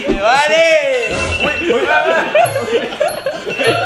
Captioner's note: laughs; Pat